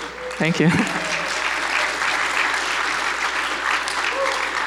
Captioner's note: audience applauds